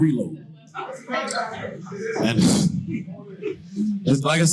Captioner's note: audience shouting in the background